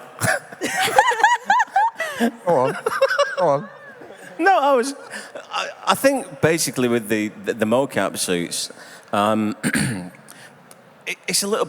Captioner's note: laughter